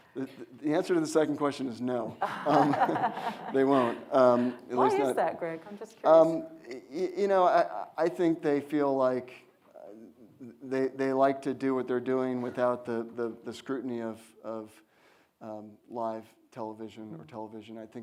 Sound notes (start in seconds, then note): 2.2 audience laughs